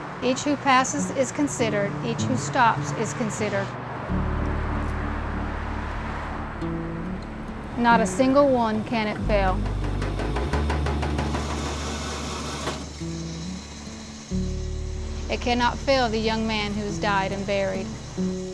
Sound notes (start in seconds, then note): 8.8 sno-cone machine rattles and crushes ice